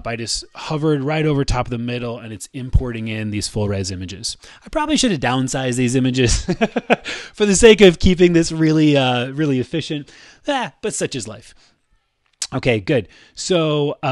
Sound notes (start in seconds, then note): 6.3 laughs